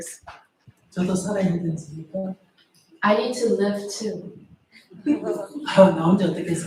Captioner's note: audience Laughter